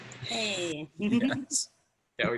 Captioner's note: chuckles